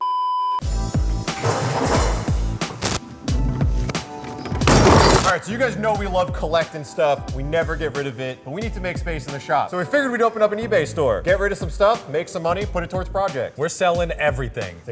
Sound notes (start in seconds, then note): 0.2 production card beeps; 1.0 relaxed soul music; 1.3 table bangs; 4.5 seat whacks